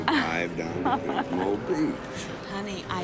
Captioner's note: woman chuckles